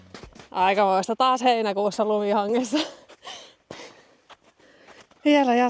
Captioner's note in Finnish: naurua